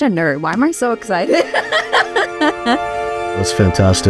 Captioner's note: laughs